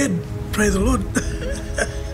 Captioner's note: laughing